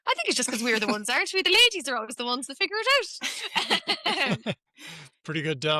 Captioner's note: laughter